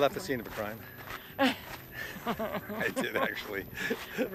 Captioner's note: Connie laughs